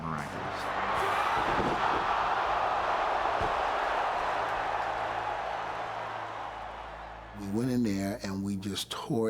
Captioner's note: applause